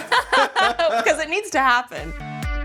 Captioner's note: laughing